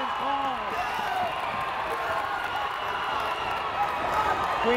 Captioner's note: crowd cheers